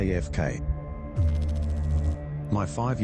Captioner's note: electrical noise